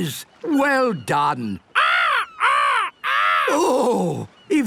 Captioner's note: seagulls cries